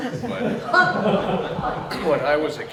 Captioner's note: laughter